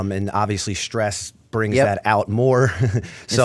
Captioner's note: chuckle